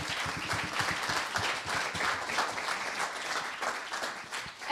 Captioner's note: applause